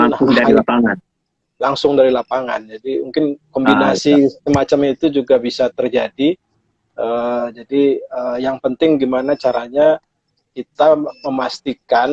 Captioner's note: non-english speech; non-english speech